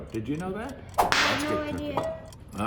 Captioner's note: whip snapping